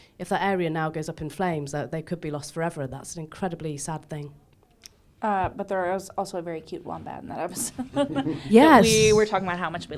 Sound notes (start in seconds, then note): 7.6 chuckling